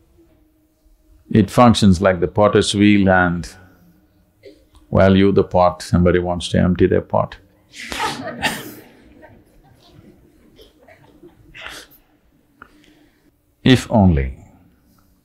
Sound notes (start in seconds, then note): 7.9 laughter